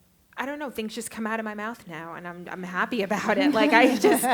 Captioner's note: laughter